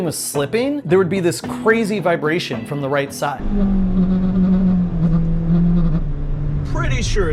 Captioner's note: loud engine struggling and shaking sounds